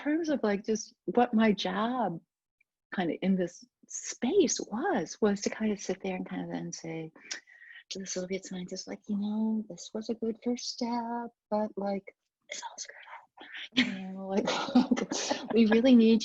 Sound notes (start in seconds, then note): 14.4 laughs